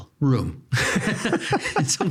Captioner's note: both laughing